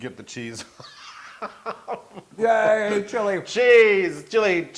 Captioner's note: laugh